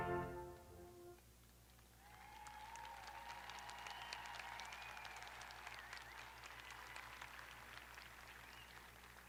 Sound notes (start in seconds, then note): 1.7 audience applauding; 1.9 audience cheering